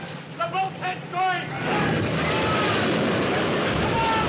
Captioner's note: Homens gritando